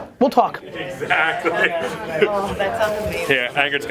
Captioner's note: people chat